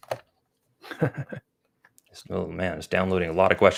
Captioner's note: chuckles